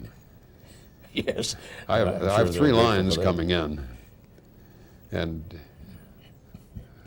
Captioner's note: laughs